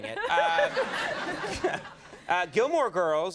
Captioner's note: crowd laughs